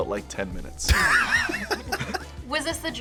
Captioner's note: both laugh